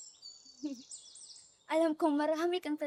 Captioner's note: chuckles